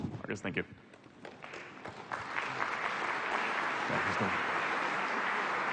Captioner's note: applause